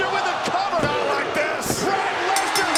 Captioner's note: bell ringing